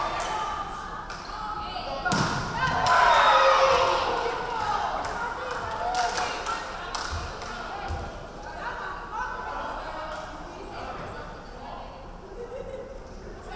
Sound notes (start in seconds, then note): 3.4 referee whistling; 4.1 crowd clapping